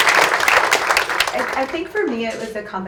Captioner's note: audience applauds